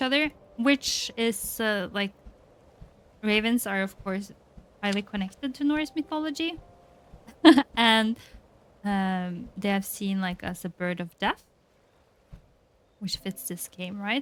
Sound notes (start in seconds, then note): 7.4 laughs